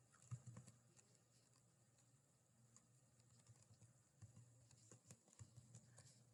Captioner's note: keystrokes clickety-clack